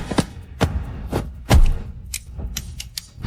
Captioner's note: gun clicking